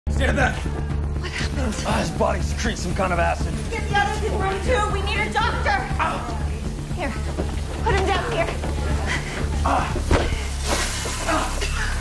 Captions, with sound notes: Stay back! What happened? Oh, his body's secreting some kind of acid. Get the others in Room 2. We need a doctor! - Ow! Here. Put him down here. Ah! [sizzling] Ah. Ah.